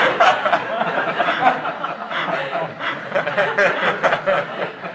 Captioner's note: laughter